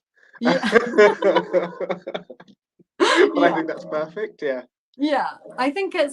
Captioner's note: laughter